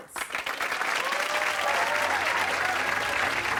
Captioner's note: applause